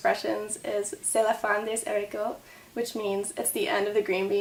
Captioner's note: speaks French